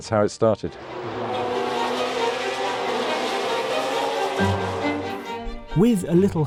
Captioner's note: engine roaring; stirring music